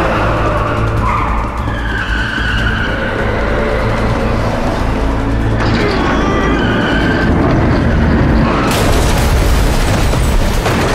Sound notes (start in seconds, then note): 2.0 tires squealing; 5.6 grunting